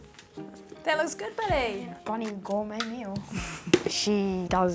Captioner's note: chuckles